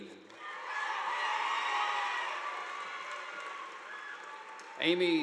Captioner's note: audience applauding